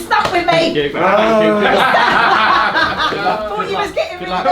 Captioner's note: laughter